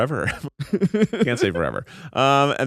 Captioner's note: laughs